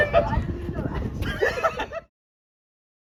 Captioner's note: laughter